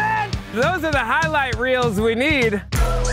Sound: shouts

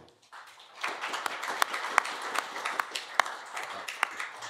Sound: applause

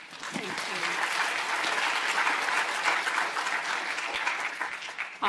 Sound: audience applauding

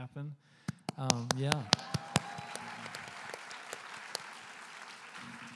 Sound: applause

